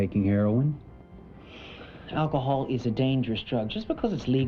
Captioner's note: sighs